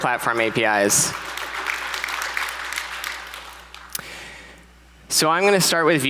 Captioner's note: audience applauds